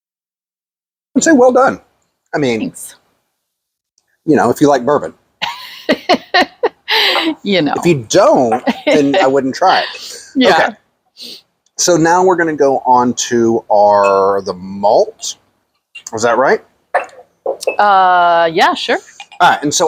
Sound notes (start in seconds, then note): 5.8 laughs